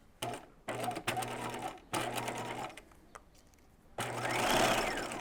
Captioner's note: sewing machine whirring